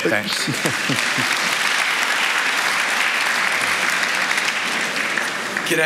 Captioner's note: applause